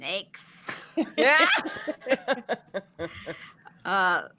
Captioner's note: all laughing